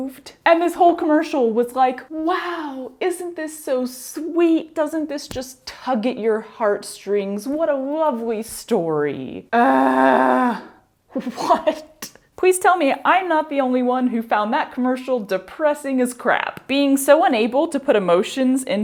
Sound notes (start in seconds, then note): 9.5 groan of despair